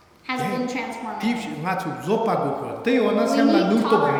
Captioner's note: speaking tibetan